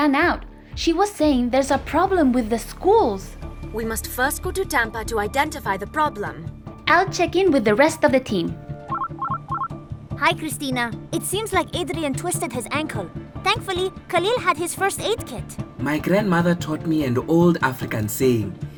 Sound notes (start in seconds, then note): 8.9 phone rings